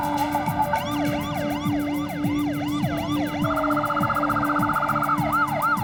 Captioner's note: siren